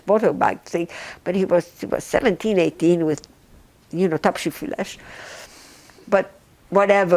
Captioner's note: non-english